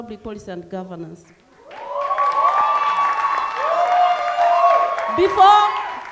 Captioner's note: cheering and clapping